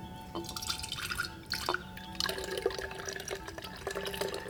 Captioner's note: buttermilk pours into jar